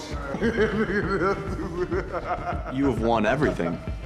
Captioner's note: laughing